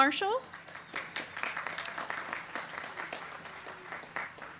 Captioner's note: crowd clapping